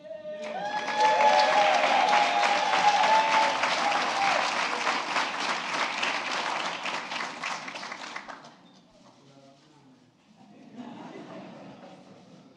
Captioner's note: applause